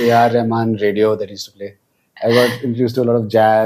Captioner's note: laughs